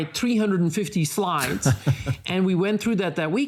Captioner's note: laughing